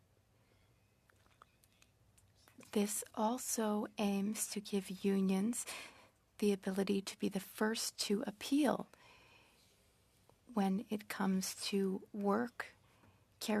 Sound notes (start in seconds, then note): 5.3 speaking French